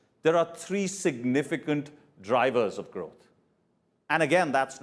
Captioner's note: none